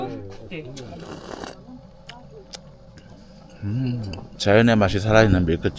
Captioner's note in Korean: 후르르릅